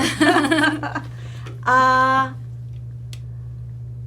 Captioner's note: laughing